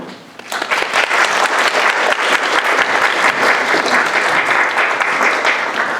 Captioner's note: audience applauding